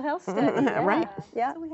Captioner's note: laughs